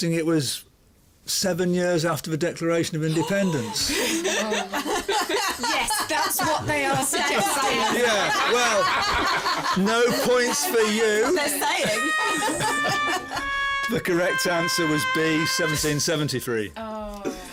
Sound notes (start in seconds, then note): 3.2 gasps; 5.6 laughing; 12.8 loser's sad trumpet